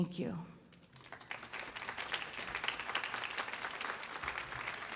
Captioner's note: audience clapping